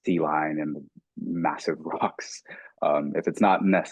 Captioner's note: chuckling